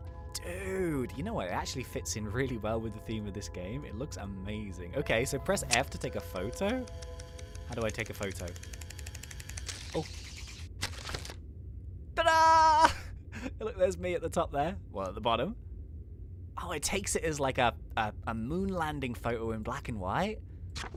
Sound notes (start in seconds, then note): 8.9 camera clicking; 13.3 laughing